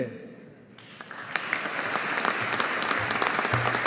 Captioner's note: audience applauding